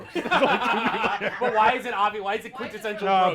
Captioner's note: all laughing